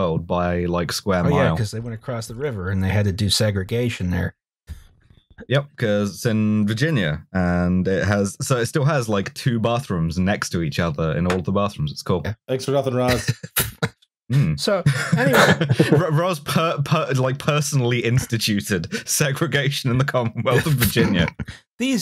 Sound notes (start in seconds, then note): 14.8 laughing; 14.8 laughter